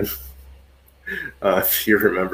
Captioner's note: laughs